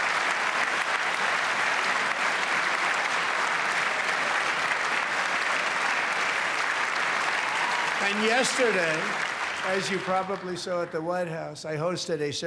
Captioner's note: cheers and applause